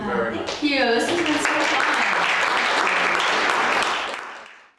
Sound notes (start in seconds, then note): 1.0 audience applauding